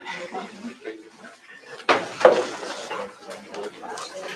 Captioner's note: chatter